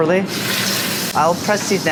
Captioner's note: sizzling